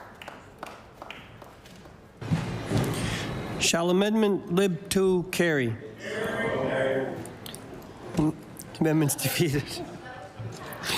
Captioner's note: some Applause